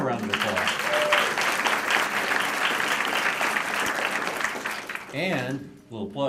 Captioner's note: applause